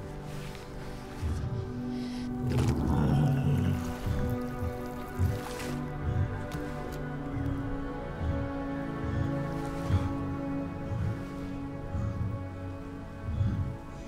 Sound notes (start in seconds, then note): 2.8 deer groans; 7.8 laboured breathing from the deer